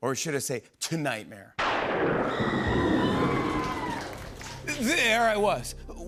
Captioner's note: thunder crashes, woman screams